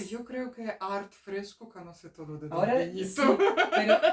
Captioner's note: laughs